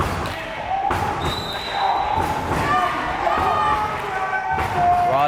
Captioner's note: whistle blares